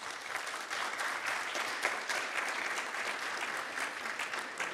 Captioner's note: audience clapping